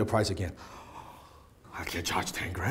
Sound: shocked inhale

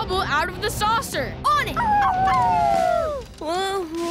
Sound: howling

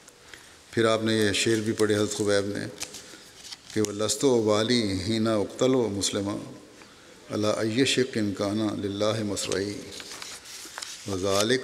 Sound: Arabic

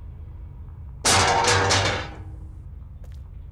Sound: loud metal clanging

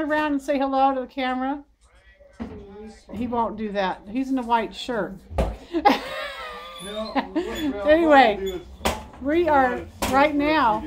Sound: laughing

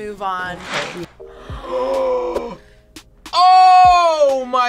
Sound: both gasp

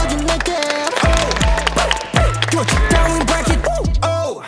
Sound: applause / Finished shooting with the first outfit!

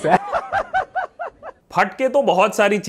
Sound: laughs

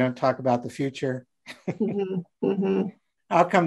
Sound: laughing

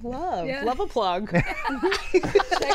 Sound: laughing

